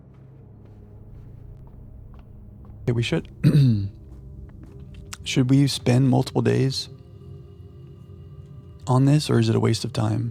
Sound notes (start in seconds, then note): 3.4 clears throat